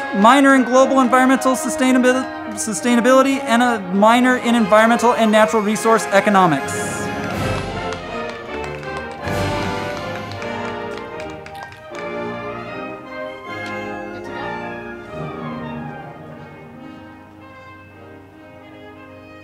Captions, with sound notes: Minor in Global Environmental Sustainability, and a Minor in Environmental and Natural Resource Economics. (band music) (crowd clapping)